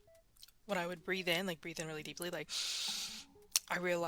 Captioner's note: deep Inhale